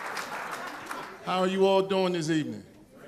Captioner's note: applause